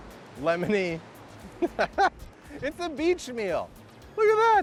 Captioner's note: laughing